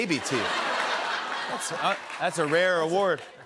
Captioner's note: laughter